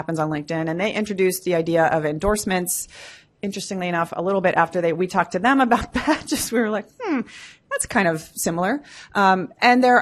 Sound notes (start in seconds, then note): 6.8 laughs